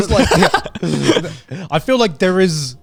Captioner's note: laughing